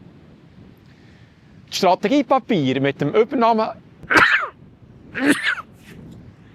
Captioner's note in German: hustet